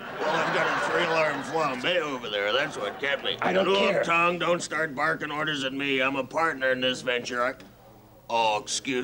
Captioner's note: laughter